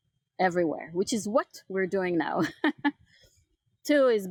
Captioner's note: chuckles